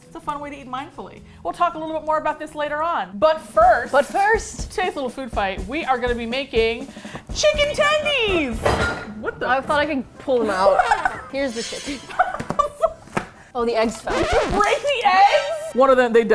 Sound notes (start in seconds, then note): 8.6 glass clunks; 10.4 laughs